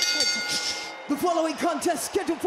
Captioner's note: bell rings